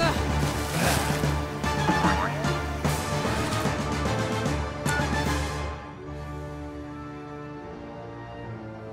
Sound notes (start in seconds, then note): 0.6 gasping